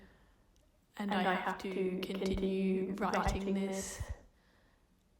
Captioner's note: audio distortion